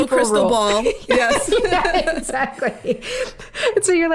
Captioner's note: laughing